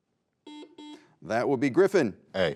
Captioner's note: buzzer beeping